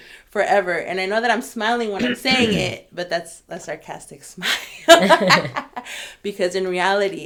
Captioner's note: laugh